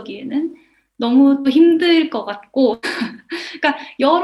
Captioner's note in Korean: 웃음